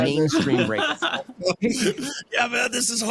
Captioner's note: laughing